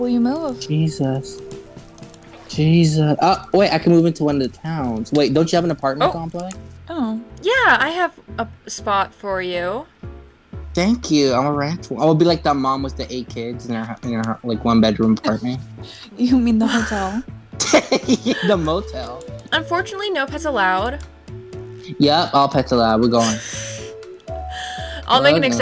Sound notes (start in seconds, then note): 17.6 laughing